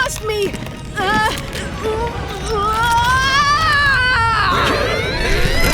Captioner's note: groaning / yelling; screaming / yelling